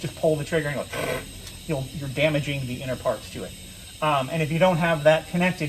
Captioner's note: hissing sound